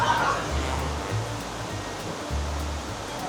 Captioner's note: cup tragically tumbles